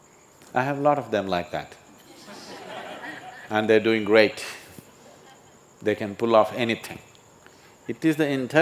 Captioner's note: laughter